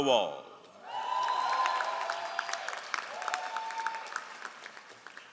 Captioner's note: all applauding